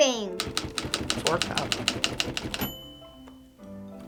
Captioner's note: typewriter dings